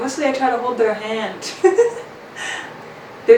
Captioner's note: laughs